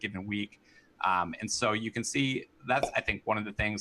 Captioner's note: popup pops